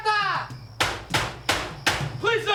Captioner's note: officer shouts in spanish; banging